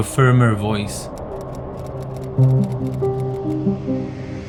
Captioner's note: typing